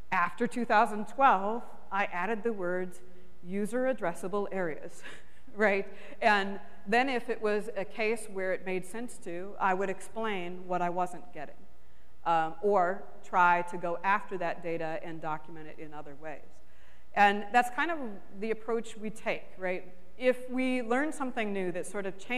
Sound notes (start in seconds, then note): 6.3 chuckles